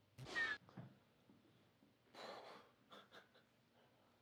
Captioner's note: Kellogg's arm whirs